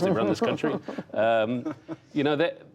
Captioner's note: laughter